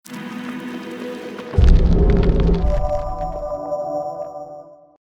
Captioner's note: dramatic sound effects